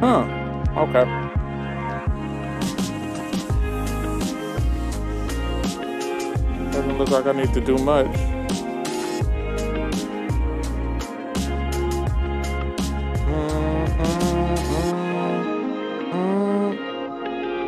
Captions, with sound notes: Huh, okay. (soft upbeat music) Doesn't look like I need to do much. (soft upbeat music) (humming)